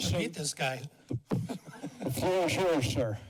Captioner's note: laughter